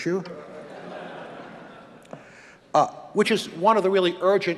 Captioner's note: audience laughing